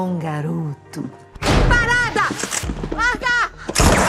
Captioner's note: mockingly; cocks gun; door opens